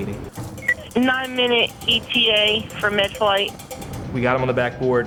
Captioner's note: voiceover